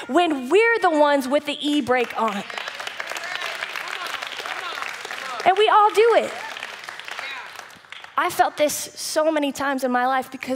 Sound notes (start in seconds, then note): 1.7 audience applause